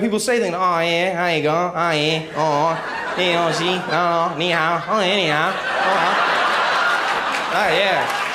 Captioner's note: chinesse jibberish